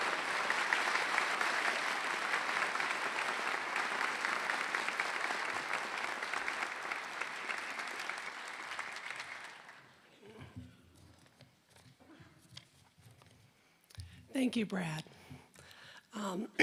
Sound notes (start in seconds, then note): 0.0 applause